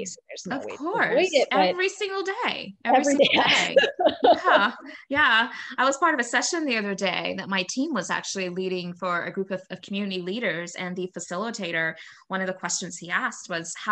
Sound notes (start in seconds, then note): 3.0 laughing